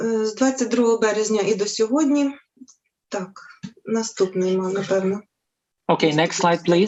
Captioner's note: foreign Language